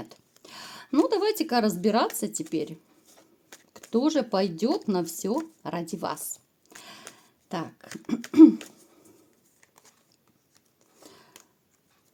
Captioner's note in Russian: откашливается